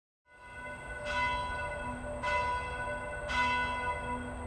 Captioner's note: bell ringing